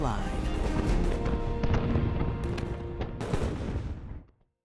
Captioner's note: battlefield voices and artillery firing